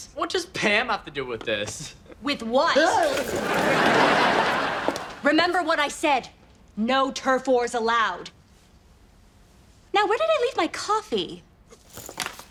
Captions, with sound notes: - What does Pam have to do with this? - With what? (gasps) (audience laughs) Remember what I said. No turf wars allowed. Now where did I leave my coffee?